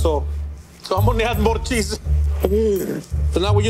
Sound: laughing

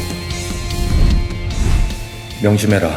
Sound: sound of the ball cutting through the air

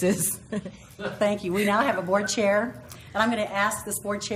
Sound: laugh

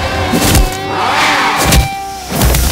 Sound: bike engine revving

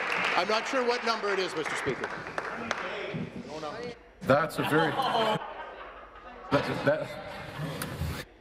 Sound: applause

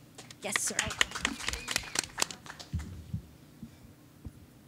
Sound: audience claps

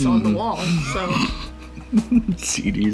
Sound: man chuckling

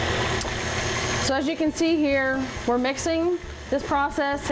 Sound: machine whirring

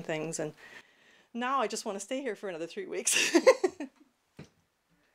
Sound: laughter

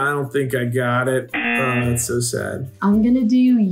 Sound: buzzer rings

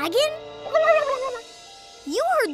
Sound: gobbling

